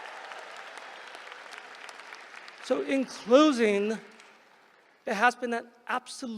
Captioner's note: applause